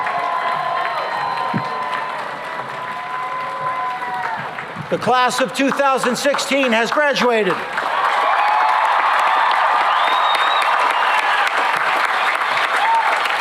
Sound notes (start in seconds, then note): 7.6 cheering and applause